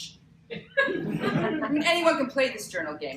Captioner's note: laughter